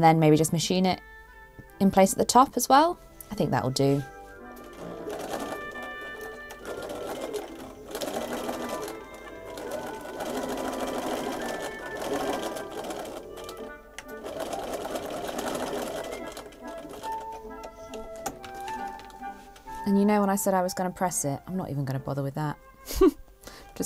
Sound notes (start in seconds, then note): 11.1 machine whirrs; 11.1 waltz plays